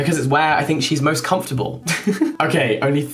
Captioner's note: laughing